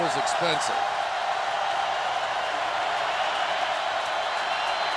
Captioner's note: cheering